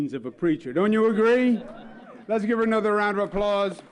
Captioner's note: applause